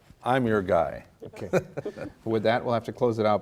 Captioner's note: laughing